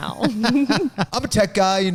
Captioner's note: laughing